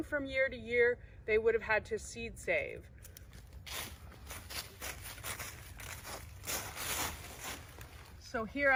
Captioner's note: crunching leaves